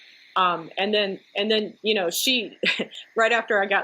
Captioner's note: chuckles